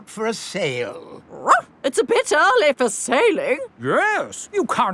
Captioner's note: barks